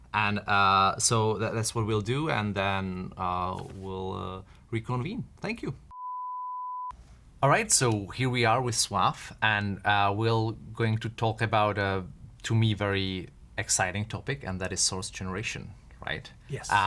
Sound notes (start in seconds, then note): 5.9 beeps